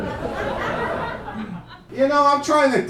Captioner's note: audience laughing